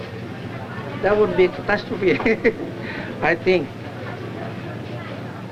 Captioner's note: laughs